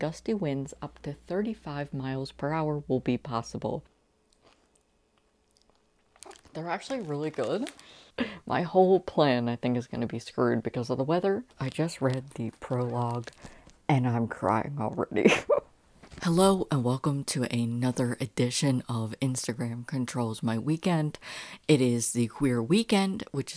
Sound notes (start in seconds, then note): 5.1 chewing chips